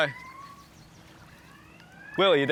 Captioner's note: alarm ringing